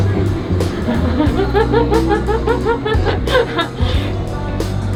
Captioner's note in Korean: 웃음 소리